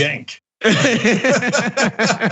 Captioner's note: laugh